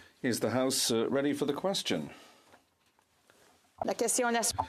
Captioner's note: speaking French